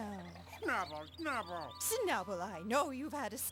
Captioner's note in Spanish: enojada